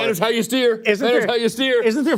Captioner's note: laughter